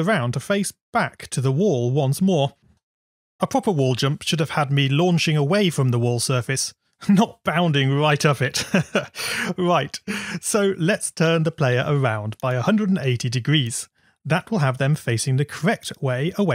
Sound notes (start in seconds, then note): 8.6 laughs